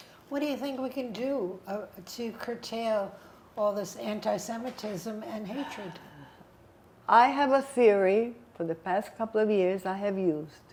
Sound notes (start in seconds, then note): 5.5 sighing